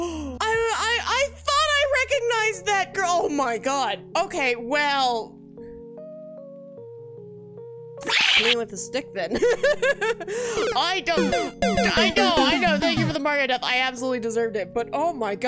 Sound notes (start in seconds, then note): 0.0 gasp; 11.1 Mario death sound; 11.9 laughs